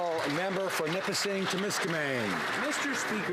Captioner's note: some Applause